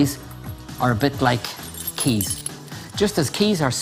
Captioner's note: keys jingle